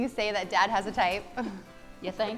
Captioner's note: laughing